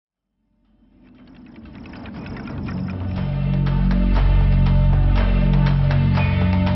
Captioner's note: gentle upbeat music; machinery whirring